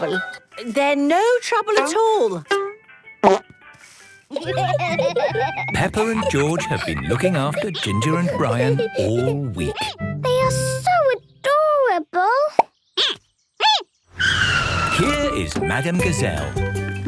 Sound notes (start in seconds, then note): 4.3 laughter; 14.2 squeaking